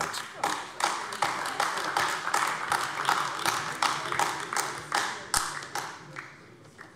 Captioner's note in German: Beifall AfD